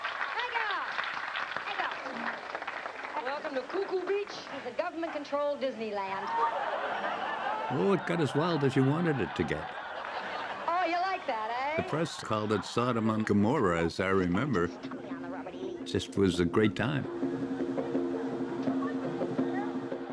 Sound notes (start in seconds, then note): 6.4 laughter; 16.2 drumming, laughter